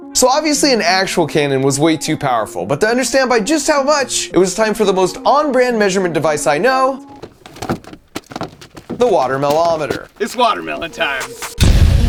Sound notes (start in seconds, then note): 7.1 watermelons thudding; 11.8 cannon firing